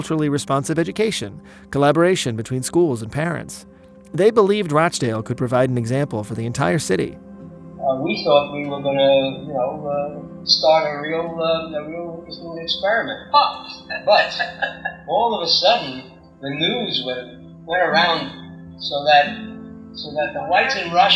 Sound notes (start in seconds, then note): 7.3 soundbite of archived recording; 13.7 laughter